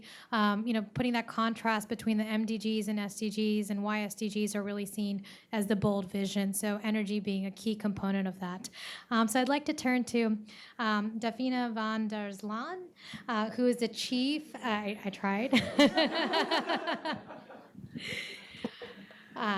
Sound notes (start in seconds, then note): 15.6 all laugh